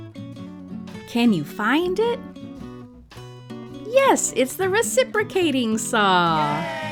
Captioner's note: cheers